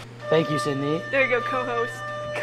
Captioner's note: bell sounds